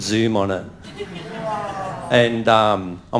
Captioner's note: audience laughing